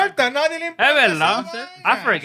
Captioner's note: speaking Spanish